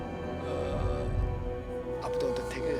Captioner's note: chinese colleague hesitates